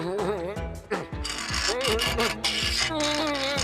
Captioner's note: pipe ratcheting